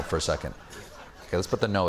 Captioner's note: laughter